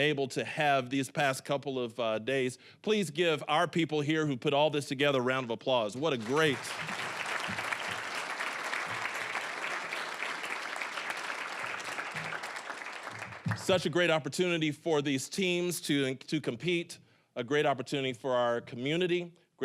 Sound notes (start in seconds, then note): 6.0 applause